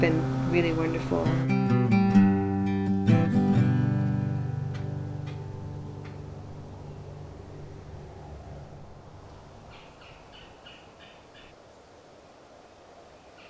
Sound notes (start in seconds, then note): 2.3 red-bellied woodpecker call